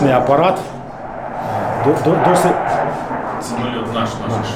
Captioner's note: airplane noises